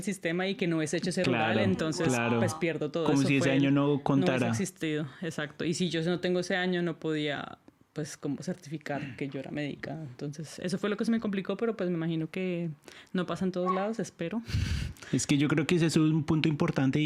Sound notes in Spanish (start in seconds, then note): 14.6 resoplido